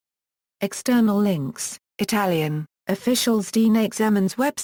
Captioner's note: Italian